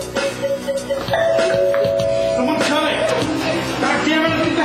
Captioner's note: doorbell